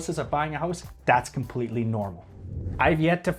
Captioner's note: air whooshes